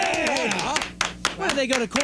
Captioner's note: applause